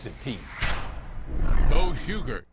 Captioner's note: logo swooshes